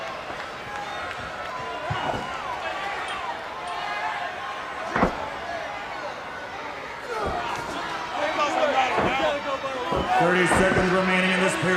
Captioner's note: crowd chatter